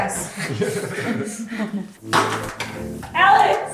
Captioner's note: laughing